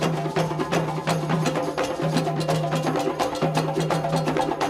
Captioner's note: people exclaiming